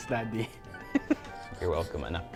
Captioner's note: giggles